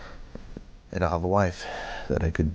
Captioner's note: sighs